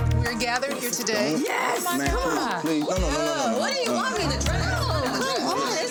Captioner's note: overlapping chatter